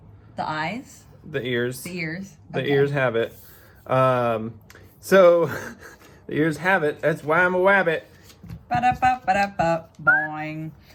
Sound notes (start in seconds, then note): 5.4 laughter